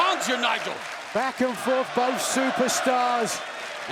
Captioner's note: crowd chants "Fight forever"